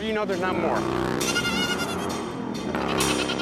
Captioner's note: goat bleating